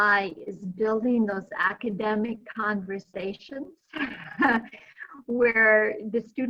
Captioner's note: chuckling